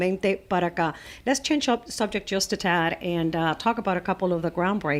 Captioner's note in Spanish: Hablando ingl\s